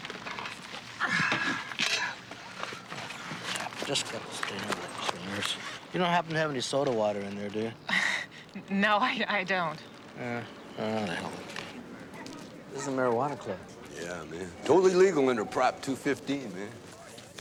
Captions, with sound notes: (sighs) I just got this thing out of the cleaner's. You don't happen to have any soda water in there, do you? (laughs) No, I-I don't. Ah. Ah, the hell with it. This is a marijuana club. Yeah, man. Totally legal under Prop 215, man.